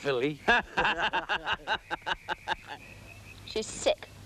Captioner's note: both laughing